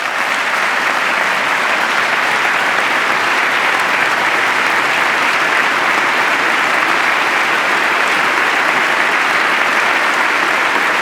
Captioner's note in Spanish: aplauso